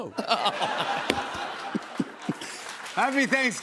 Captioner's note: laughter